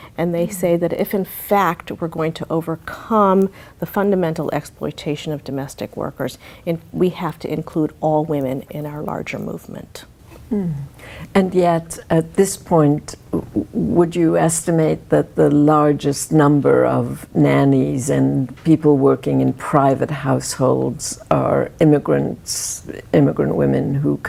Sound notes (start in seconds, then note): 10.5 humming